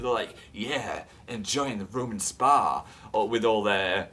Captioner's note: rich middle-aged guy voice; normal voice